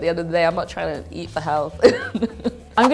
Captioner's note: laughing